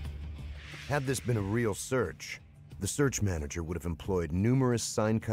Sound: voiceover

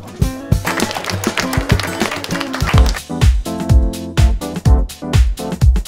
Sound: clapping

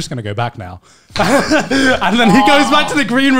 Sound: men laughing

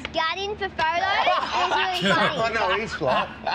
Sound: laughter; laughter

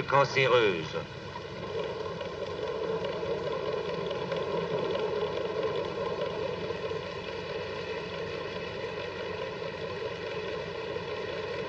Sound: bruits de laboratoire

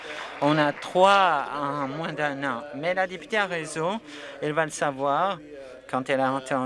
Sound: some Applause

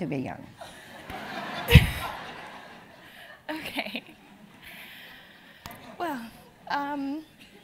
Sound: laugh; laugh

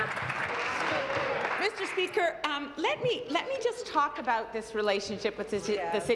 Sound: applause

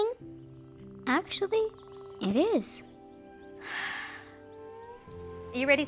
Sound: exhales

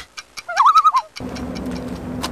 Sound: loon call

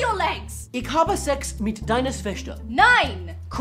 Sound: talk but in German

